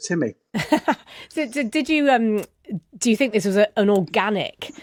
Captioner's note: laughs